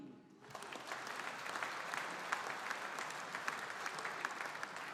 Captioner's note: audience applauding